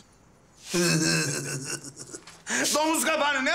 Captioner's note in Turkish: Gülüyor